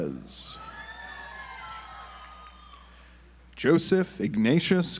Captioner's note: audience applauds